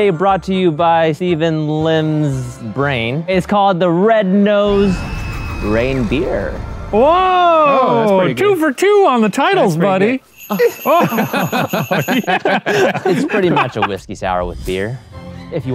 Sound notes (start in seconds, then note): 10.0 bells ringing; 10.4 both laugh